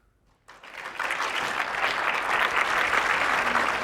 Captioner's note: applause